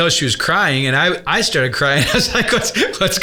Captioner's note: laughs